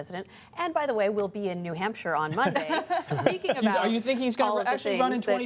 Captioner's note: laughter